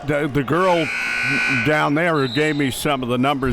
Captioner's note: buzzer sounding